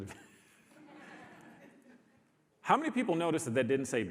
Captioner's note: audience laughs